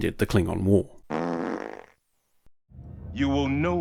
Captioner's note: fart noise